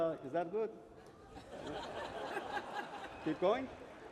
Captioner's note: laughter